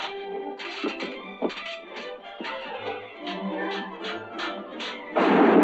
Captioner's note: dramatic music continues; swords clashing; thunder rumbling